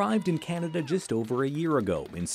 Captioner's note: cheers and Applause